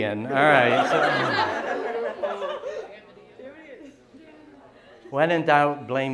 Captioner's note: laughter